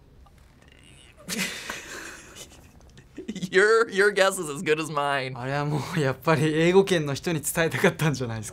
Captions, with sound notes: (snickering) Your guess is as good as mine.